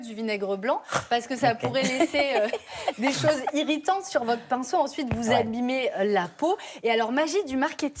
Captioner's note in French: rires